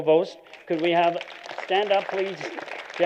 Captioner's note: applause